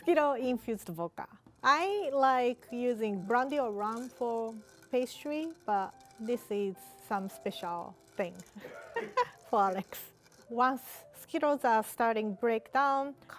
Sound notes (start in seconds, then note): 8.6 laughs